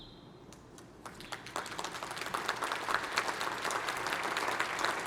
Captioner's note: applause